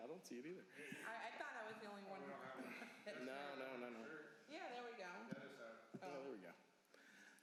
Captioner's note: laughing